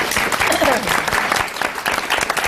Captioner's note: applause